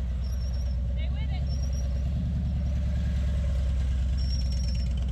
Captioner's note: motorcycle whirring